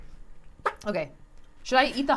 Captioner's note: ketchup squelches